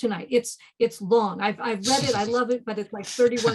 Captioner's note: laughing